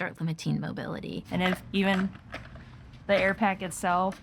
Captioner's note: helmet knocking